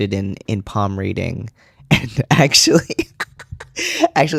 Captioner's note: laugh